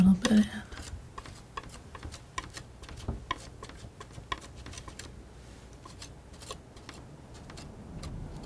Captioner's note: tapping